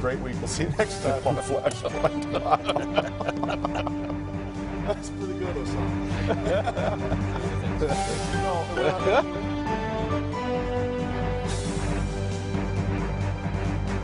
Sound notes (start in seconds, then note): 8.5 laughter